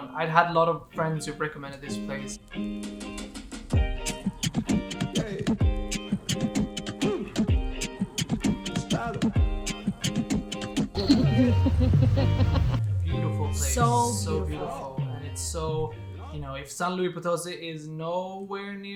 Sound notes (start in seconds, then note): 2.5 bright upbeat music; 10.9 laughing